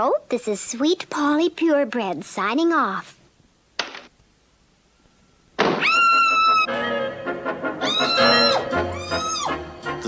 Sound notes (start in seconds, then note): 3.2 door Opens & then Closes; 5.8 Sweet Polly Screams; 7.8 Sweet Polly Screams